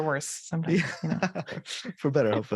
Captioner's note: laughter